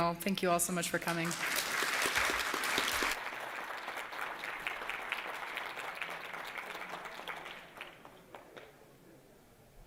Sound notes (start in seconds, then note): 2.6 applause